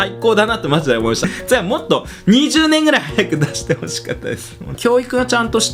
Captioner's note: laughs